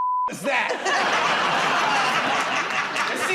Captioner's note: laughter